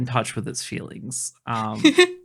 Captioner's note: laughing